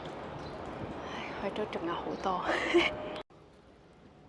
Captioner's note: laughs